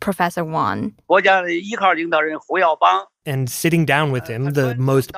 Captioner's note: speaking Mandarin